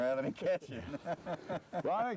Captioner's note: laughter